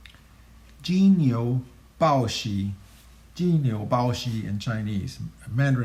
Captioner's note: speaking in Chinese language